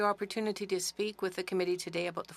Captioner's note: speaking French